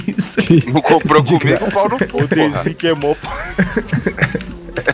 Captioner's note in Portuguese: risos